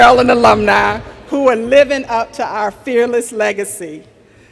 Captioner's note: none